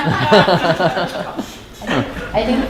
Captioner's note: laughter